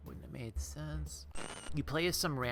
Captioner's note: static